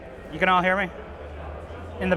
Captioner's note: laughing